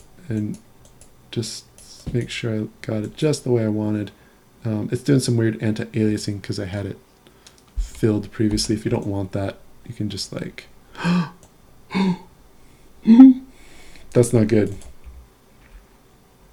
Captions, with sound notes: and just make sure I've got it just the way I want it. It's doing some weird anti-aliasing because I had it filled previously. If you don't want that, you can just, like, (gasping). That's not good.